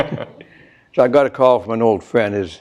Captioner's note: both chuckle